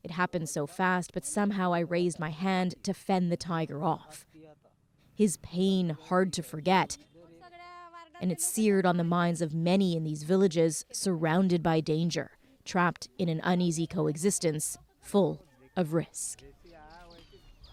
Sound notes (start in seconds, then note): 0.5 speaking Foreign Language